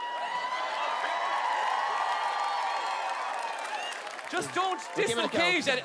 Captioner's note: audience whoops and cheer